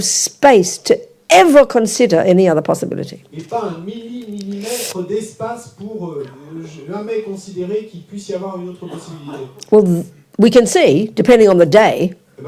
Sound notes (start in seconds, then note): 3.3 French; 12.3 French